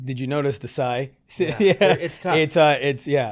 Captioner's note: laughs